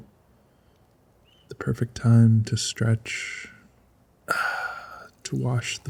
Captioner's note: audibly stretches